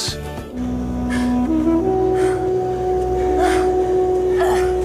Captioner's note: gasps